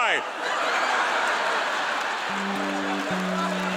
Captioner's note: audience laughing; soft music